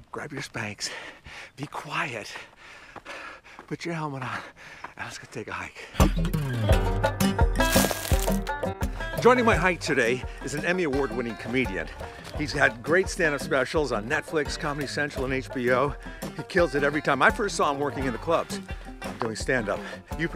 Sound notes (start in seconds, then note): 6.4 upbeat guitar music; 7.6 footstep crunching